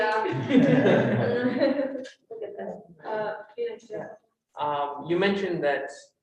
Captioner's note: all laughing